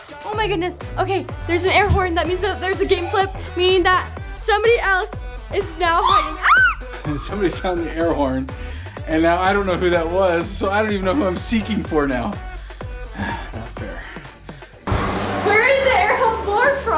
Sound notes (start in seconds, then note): 6.0 screaming; 12.6 sighs